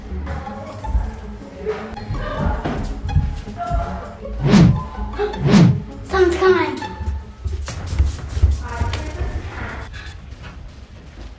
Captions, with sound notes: (wind whooshing) Someone's coming. (feet thudding)